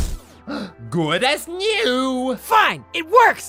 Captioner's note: gasp